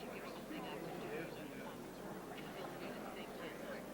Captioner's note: crowd murmuring